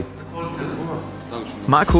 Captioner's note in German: Gesprächskulisse